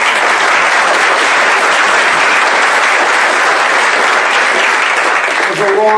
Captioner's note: applause